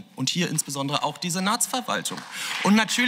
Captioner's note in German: Beifall